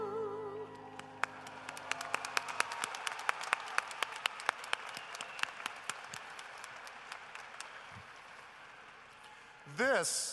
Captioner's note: applause